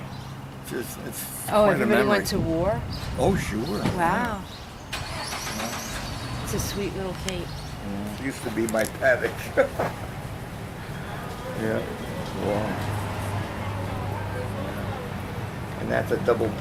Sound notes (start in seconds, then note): 11.6 laughs